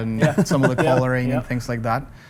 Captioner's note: laughs